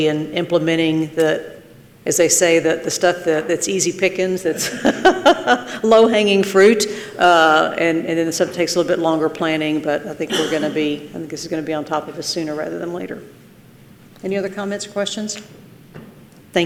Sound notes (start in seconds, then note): 4.5 laughs